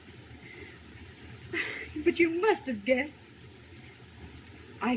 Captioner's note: sigh